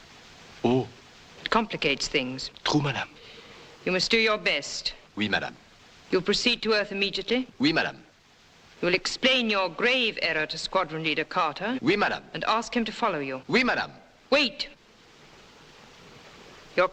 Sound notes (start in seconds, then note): 5.2 speaking french; 7.8 speaking french; 13.6 speaks french